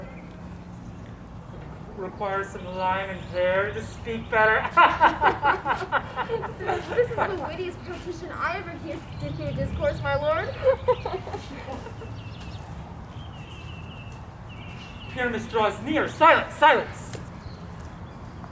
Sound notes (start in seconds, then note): 4.6 laughing; 10.5 giggling